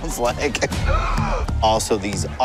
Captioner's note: gasps